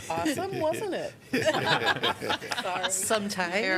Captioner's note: laughter